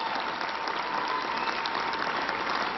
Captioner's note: applause